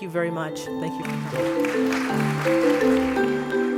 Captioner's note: applause